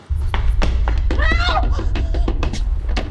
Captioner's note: banging